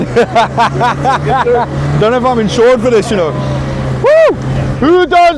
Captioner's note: laughs